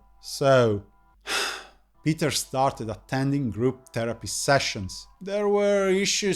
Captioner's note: sigh